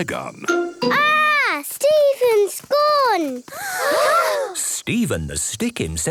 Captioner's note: gasps